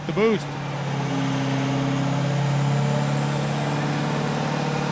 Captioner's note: engine revving